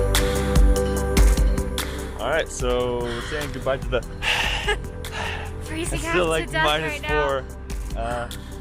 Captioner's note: breath sounds